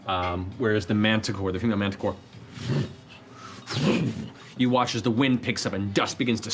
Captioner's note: flapping